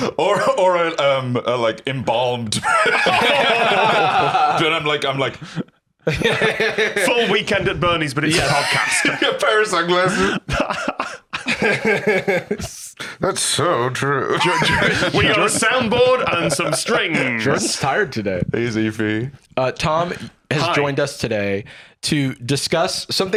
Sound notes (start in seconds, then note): 2.6 all laughing; 6.3 laughs; 11.8 all laughing